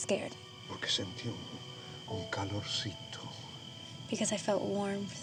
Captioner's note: speaking spanish